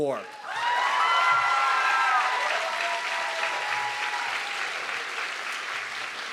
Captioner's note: audience clapping and cheering